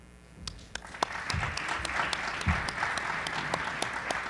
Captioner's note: group applauds